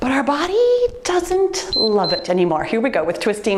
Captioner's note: timer beeps